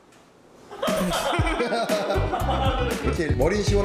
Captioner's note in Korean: 멤버들 폭소